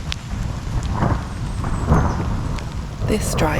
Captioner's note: thunder